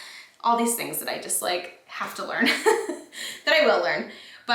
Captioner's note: chuckles